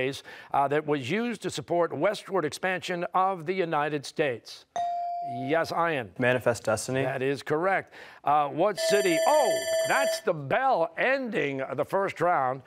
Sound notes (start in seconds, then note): 8.8 bell rings